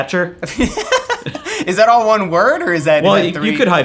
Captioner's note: laughs